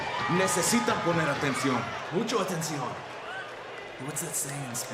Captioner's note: audience cheering; spanish language